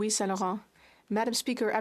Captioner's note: speaking in French